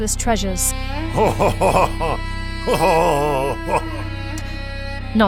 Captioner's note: lustful chuckling continues